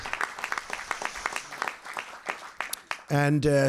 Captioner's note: applause